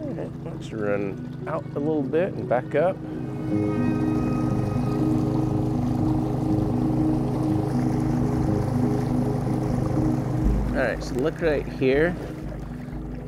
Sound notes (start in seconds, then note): 4.0 boat engine roaring; 4.0 slow-tempo piano music